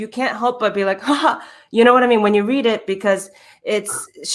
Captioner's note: sighs